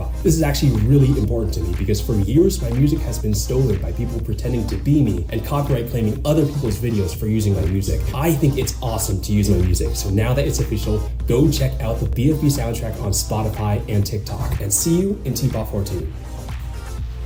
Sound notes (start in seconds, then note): none